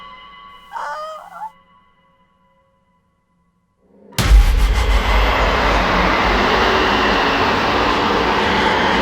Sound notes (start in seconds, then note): 0.7 Posey whines; 3.8 intense music